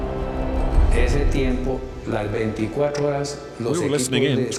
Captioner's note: Spanish spoken audio